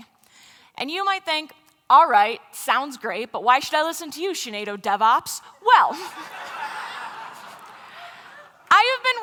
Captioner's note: laughter